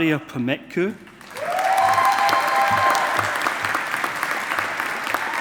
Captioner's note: audience applauding